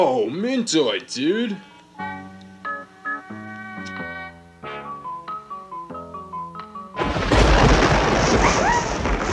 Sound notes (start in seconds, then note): 7.0 boom